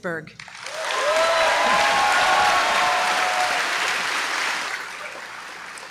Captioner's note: applause